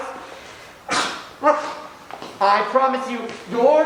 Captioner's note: Bottom sneezes